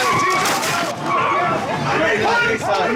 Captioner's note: many yelling